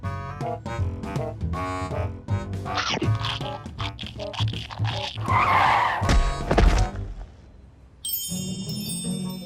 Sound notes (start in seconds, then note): 2.8 metallic crunching